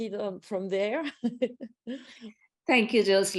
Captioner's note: laughs